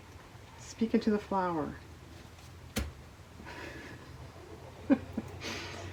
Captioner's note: laughs